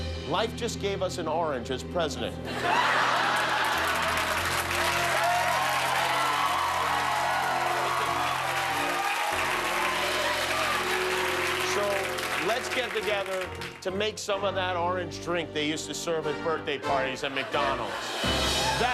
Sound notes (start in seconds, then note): 2.5 laughter; 2.5 cheers and applause